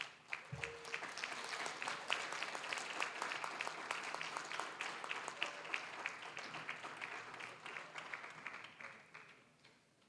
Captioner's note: applause